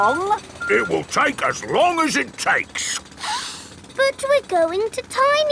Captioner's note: sniffs